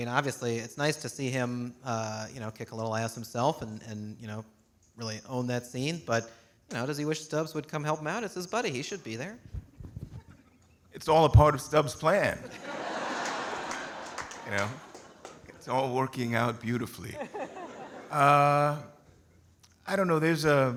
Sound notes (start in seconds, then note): 12.4 audience laughing